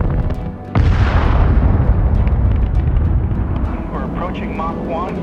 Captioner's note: loud blast